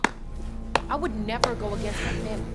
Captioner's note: Katya clapping